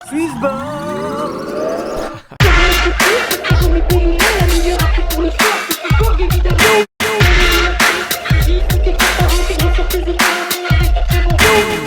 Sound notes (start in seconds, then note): 2.1 laughs; 2.3 upbeat music